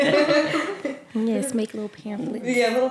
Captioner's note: laughter